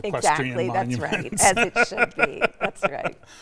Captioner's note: laughs